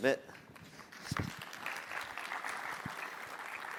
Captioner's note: applause